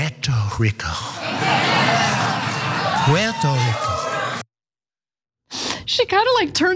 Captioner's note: applause